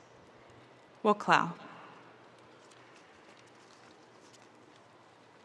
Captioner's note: speaking in Native language